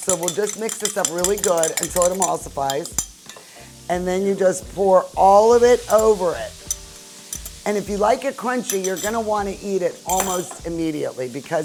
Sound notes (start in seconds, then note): 0.0 glass tinkling